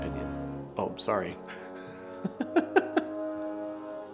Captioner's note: laughing